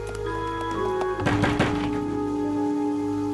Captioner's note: knock knock knock